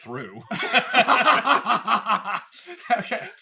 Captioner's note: laughter